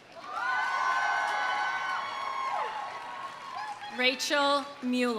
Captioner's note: audience applauding; audience cheering